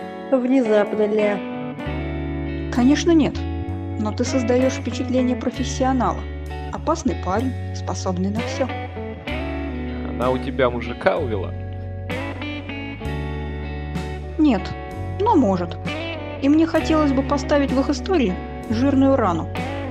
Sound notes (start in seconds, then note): none